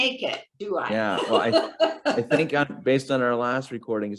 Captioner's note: laughing